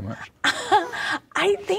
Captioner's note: laughing